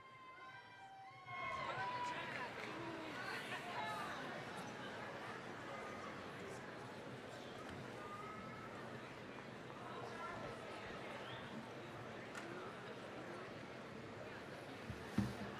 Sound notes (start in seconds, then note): 0.1 scattered cheering; 3.3 general chatter